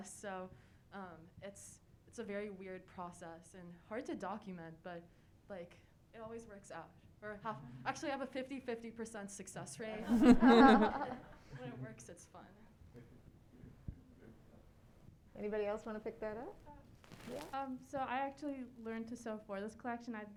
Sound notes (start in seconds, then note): 10.0 audience laughing